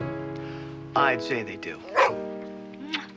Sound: Rocky barks

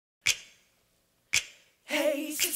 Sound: snaps

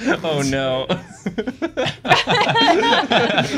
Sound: laughter

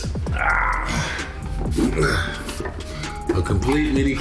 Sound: groaning

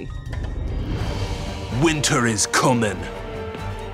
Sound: english accent

